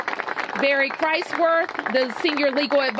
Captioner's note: applause